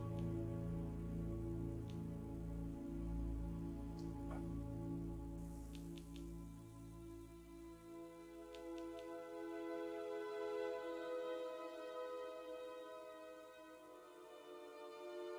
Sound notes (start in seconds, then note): 1.8 2 clicks; 5.7 3 clicks